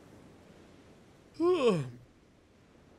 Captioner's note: yawn